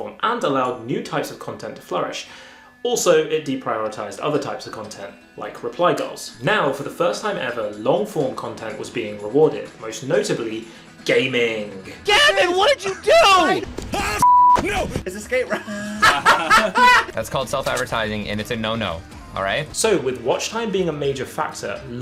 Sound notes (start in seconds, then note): 14.2 beeping; 15.4 laughing